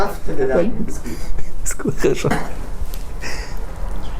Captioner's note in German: Lachen